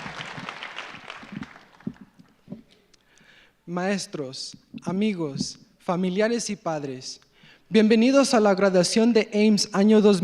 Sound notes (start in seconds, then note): 3.9 speaking in foreign language